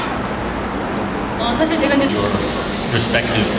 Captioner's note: speaking Korean